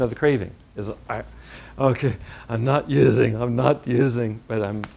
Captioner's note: growling voice